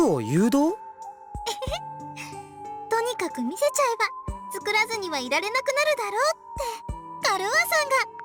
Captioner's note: chuckle